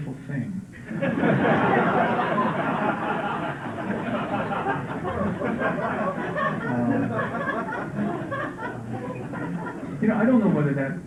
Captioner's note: laughter